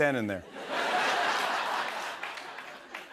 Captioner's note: laughter